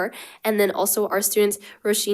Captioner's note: none